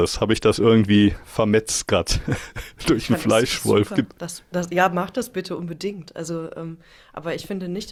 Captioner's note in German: gelächter